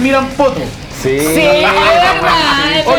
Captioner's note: laughs